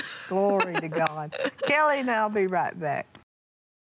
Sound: laughs

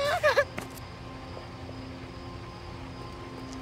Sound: crying; running footsteps

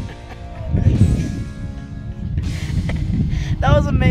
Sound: laughing

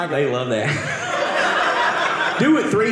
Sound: audience laughing

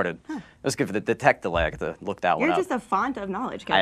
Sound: voice muffled

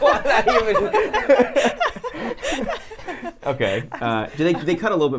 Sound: everyone laughs

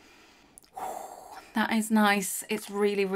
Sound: exhales

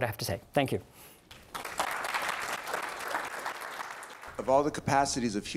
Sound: audience clapping

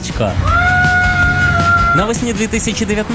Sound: screams

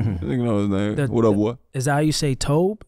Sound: chuckles

